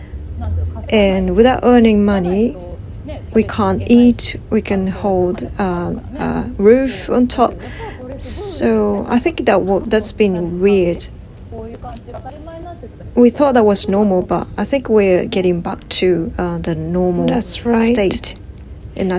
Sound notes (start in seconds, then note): 9.8 laugh